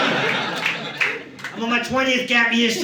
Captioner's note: audience laughing